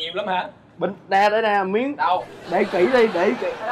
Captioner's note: laughing